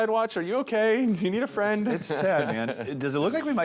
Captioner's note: laughs